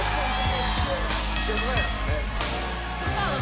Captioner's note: bell ringing